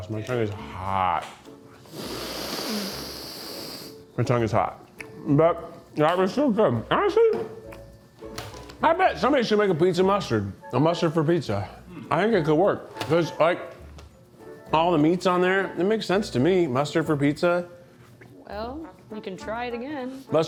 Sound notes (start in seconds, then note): 1.7 sniffs